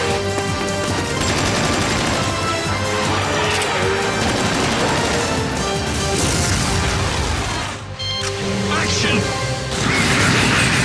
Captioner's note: game audio